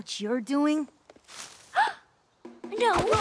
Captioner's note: gasps; grunts